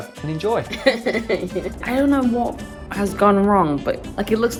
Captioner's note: laughs